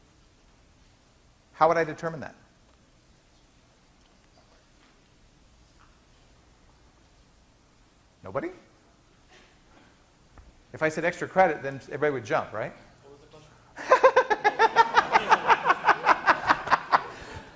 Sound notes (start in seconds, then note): 13.8 laughing